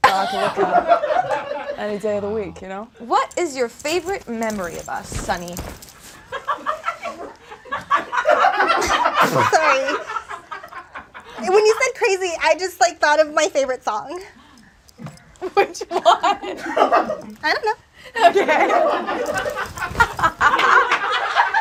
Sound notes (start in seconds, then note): 0.0 audience laughs; 6.3 audience laughs; 15.0 laughs; 18.2 audience laughs